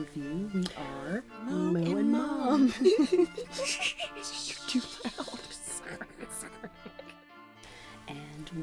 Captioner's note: laughing; laughing continues